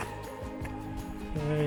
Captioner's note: none